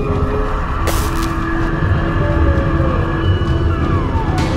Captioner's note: creature howling; sparks crackling; creature screeching